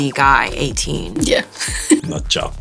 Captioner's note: laughs